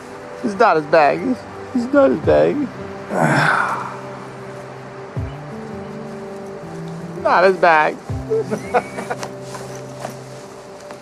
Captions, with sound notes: This is not his bag. It's not his bag. (Rick grunts) Not his bag. (Rick laughs)